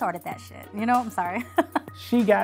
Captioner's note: laughing